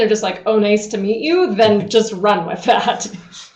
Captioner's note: speakers laughing